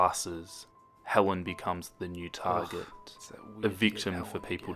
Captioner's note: whispers